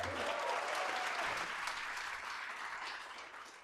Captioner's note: applause